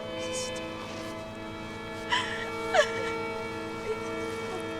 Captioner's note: Sophia whispering